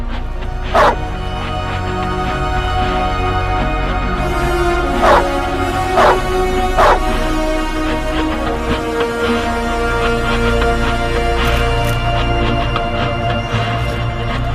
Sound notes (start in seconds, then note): 5.0 dog barking